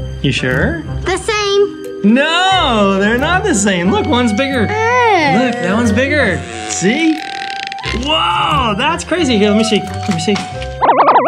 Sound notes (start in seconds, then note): 6.9 blows raspberry; 11.0 warbling